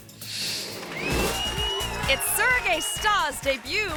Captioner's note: audience applauding